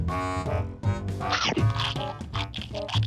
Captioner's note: metallic crunching